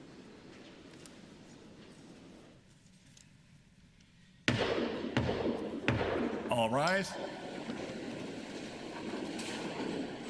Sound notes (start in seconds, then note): 5.1 sounding gavel